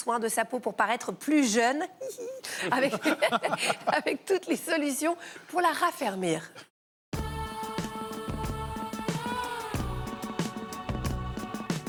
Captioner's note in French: rires